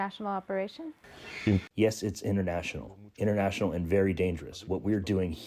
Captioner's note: through translator